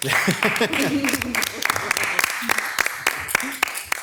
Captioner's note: audience clapping